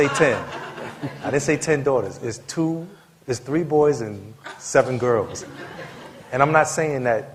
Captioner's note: laughter